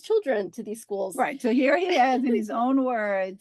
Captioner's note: laugh